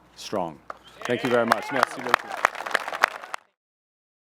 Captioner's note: applause